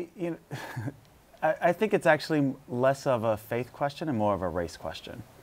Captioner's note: laughs